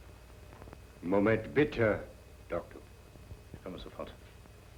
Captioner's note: speaking german